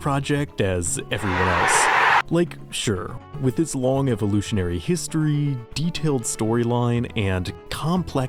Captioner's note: cheering